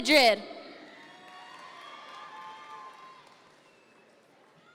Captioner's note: audience members cheer